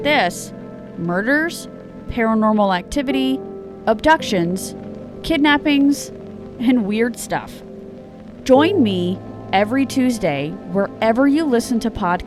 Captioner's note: voice distorted